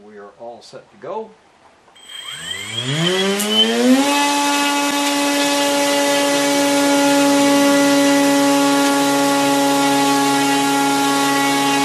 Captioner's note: motor running